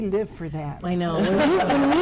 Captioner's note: audience laughs